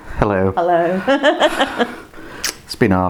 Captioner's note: laughs